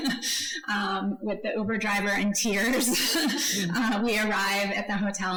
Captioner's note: laughs; laughs